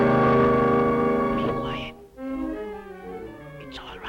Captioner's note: whispering